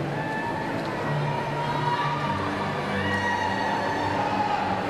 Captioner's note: cheers and applause